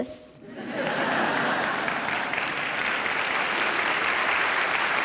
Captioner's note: audience applause